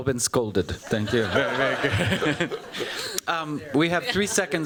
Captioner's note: laughter